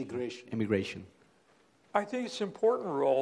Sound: voiceover

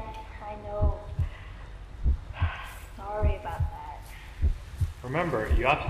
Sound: deep breath

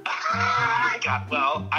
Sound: laughs

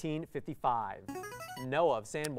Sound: player buzzer

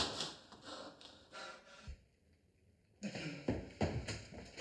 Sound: heavy breathing

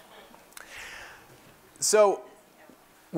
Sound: laugh

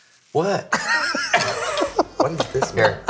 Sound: laughing

